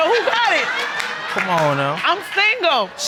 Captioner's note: audience laughing